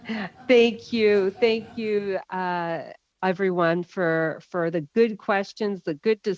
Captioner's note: laughter